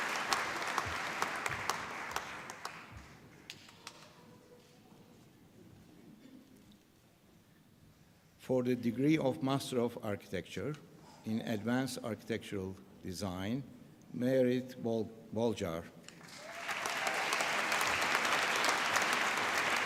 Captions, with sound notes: For the degree of Master of Architecture in Advanced Architectural Design... Mairead Bolger. (APPLAUSE)